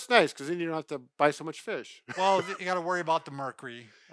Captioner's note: laughs